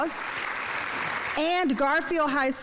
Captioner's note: audience applauding